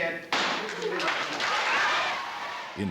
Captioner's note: gavel bangs, people cheer and clap